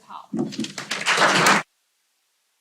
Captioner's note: applause